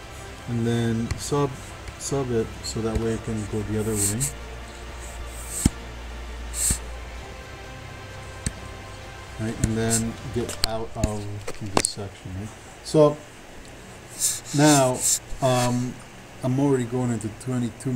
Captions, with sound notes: And then Subhead, so that way it can go the other way. (computer mouse tapping) (faint techno music) Right, and then, get out of this section. So, now I'm already going into 22 minutes.